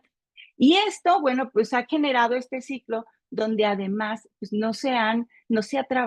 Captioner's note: continues speaking Spanish